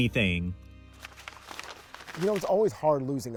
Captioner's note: paper crumpling